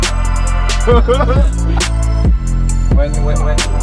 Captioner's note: upbeat music; chatters